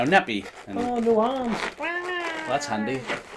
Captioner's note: mimicking baby crying